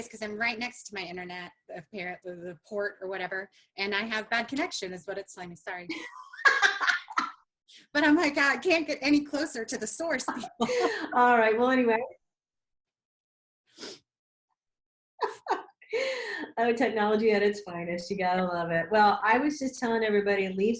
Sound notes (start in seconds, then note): 5.9 laughs; 15.2 laughing